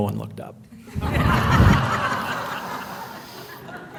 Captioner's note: laughing